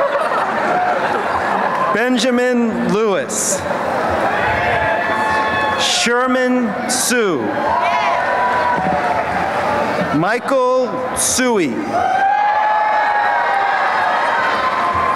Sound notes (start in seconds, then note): 3.6 cheering; 12.0 applause and cheering